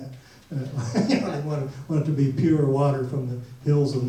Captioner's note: laughs